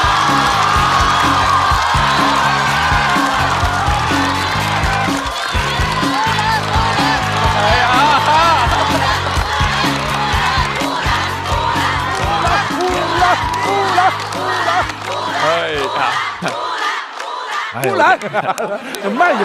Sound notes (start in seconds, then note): 1.8 applause